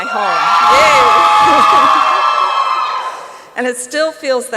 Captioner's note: applause and cheering